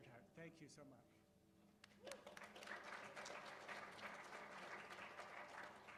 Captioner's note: applause